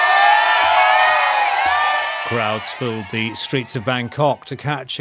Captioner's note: crowd cheering